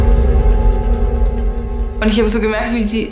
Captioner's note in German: Dröhnen